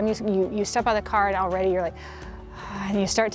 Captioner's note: exhales